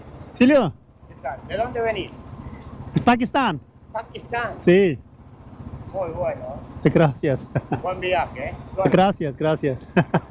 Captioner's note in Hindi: स्पेनिश में बोलते हुए